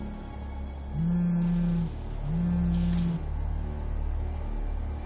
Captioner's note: phone vibrates